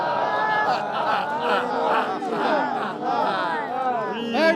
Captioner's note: cheering